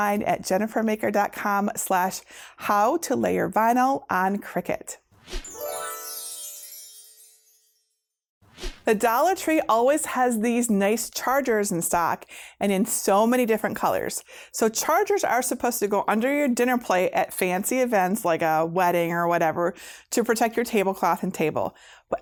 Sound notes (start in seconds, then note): 5.4 stars twinkling; 8.5 air whooshing